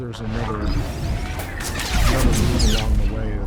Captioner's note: explosion